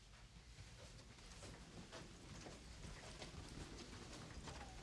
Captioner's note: automated Voice; footsteps shuffle